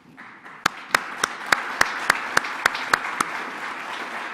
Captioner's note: all applauding